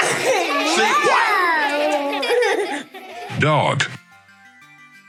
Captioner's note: children laughing